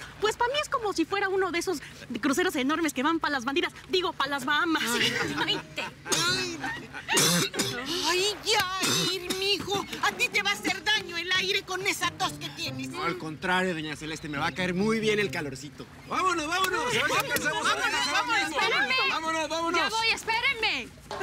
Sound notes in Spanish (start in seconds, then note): 4.8 Risas